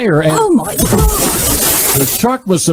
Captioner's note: shark splashes